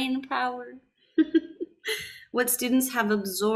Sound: laughs

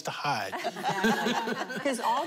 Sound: laughter

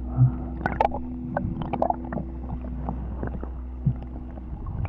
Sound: water splashing; water splashing

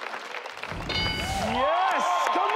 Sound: ding sound

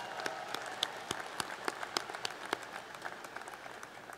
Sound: applause

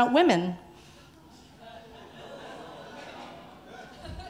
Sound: audience laughing

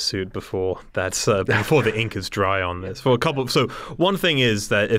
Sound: chuckle

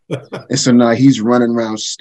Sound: chuckles

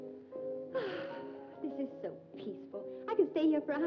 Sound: sighs

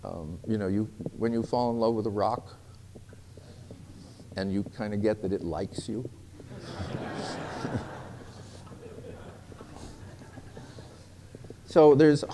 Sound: laughter

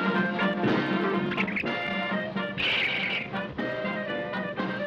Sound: circus music; monkey squeaking

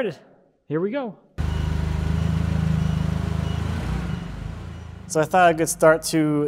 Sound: forklift engine whirring

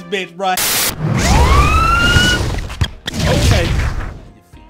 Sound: siren

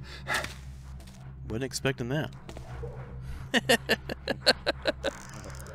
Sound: laughs

